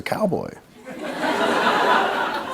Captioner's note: laughter